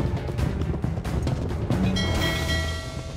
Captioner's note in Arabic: رنين الجرس